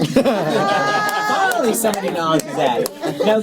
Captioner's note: laughter